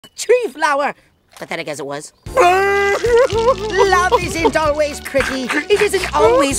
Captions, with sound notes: Tree flower, But then it gets it worse (Norbert Cries) Love isn't always creepy (Norbert Cries continually)